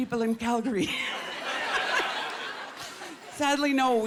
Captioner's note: laughter